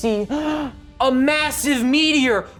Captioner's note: gasps